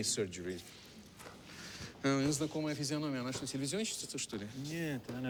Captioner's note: speaks russian